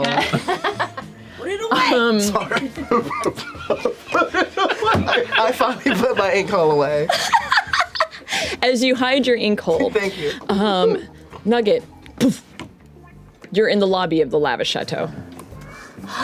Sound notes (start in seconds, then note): 1.4 laughs